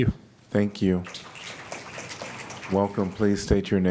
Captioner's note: applause